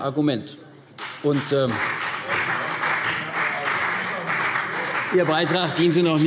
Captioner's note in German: Beifall CDU